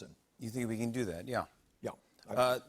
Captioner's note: none